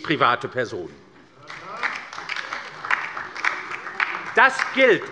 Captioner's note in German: Beifall bei der LINKEN und der FDP - Zuruf von der FDP: Hört, hört!